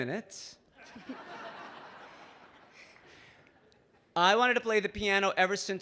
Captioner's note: audience laughing